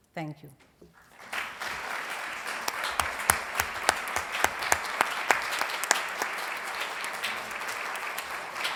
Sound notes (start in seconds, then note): 1.0 applause